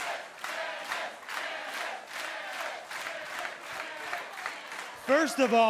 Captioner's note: crowd cheering